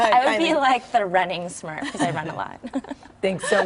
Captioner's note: laughter